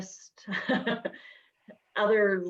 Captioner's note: giggles